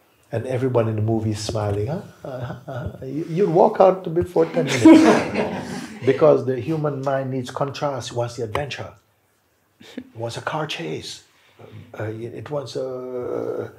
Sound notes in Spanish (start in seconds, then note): 4.5 risas